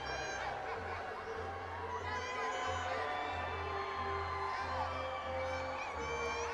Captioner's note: audience continues applauding and cheering